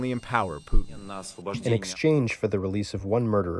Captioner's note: through translator